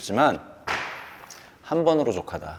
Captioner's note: thunk